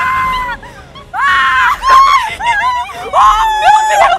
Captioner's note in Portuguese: grita